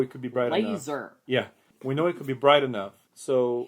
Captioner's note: mimicking Dr. Evil